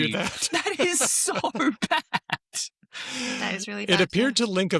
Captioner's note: laughter